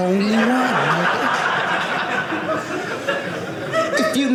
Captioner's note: audience laughing